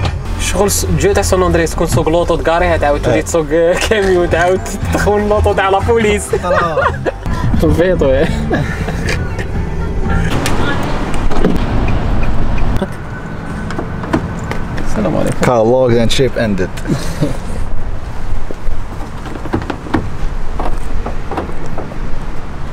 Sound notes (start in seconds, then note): 5.9 laugh